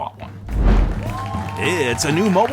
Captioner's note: audience cheering and clapping